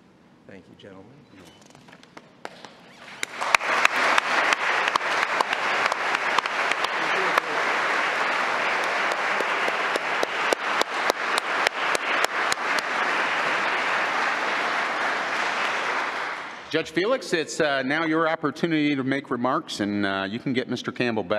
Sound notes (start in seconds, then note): 6.3 applause